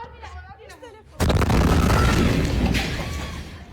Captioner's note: explosion; speaking foreign language